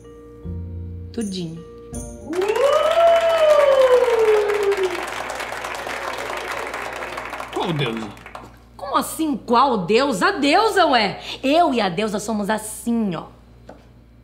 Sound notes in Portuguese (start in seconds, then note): 2.2 aplausos